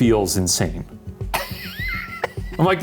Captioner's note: laughing